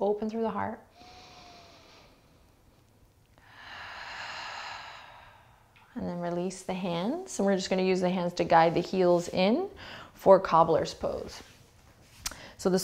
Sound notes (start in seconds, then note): 1.2 heavy breathing